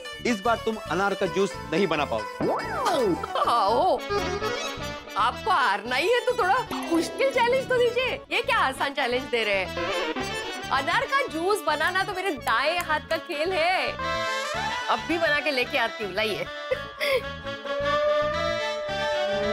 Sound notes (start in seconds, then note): 2.8 laughing; 17.7 suspenseful music playing